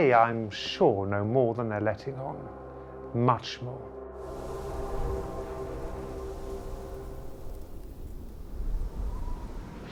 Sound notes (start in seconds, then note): 4.1 wind blowing